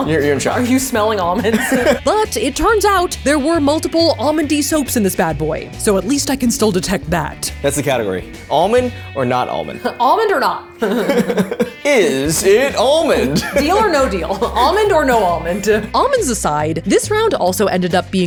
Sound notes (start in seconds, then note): 1.2 laughing; 10.8 both laughing; 13.8 laughing